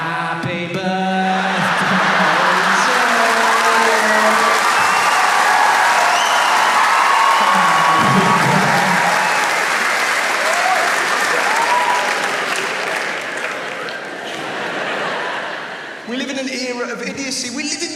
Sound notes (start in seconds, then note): 3.1 audience applauds and cheers